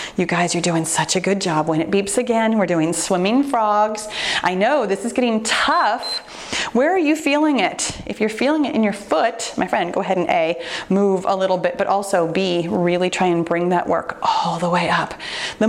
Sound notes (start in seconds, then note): 6.0 timer beeps